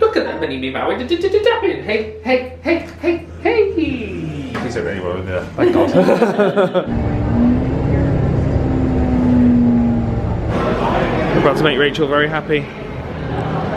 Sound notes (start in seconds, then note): 5.7 laughing; 7.1 engine humming